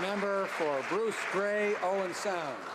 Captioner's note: some Applause